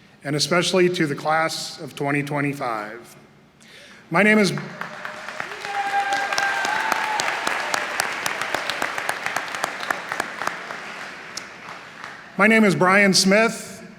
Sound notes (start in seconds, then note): 4.5 applause; 7.3 cheering